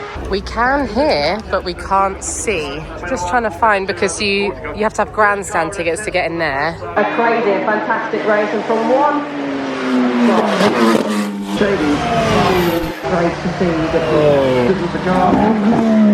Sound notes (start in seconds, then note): 9.4 car engine whooshes